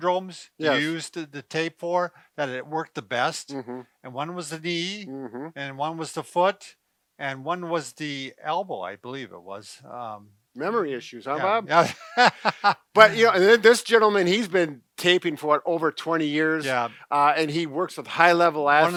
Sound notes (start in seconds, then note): 11.4 laughs